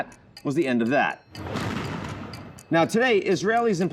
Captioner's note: missiles firing